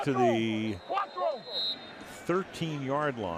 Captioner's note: whistle blows